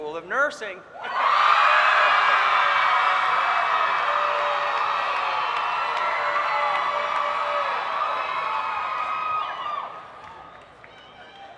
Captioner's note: cheering